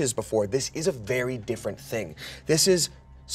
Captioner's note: none